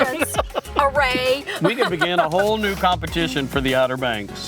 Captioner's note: laughing